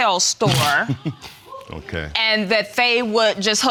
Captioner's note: laughs